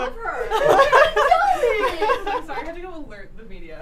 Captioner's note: laughing